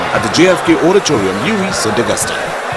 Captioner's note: wild applause and cheering for 22 seconds